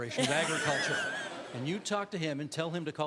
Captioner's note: crowd laughing